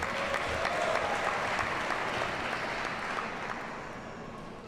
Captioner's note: audience cheers and applauds